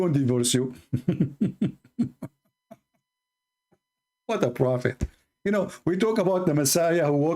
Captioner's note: Ketawa